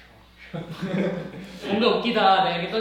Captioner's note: laughing just from eye-contact